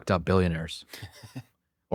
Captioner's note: laughs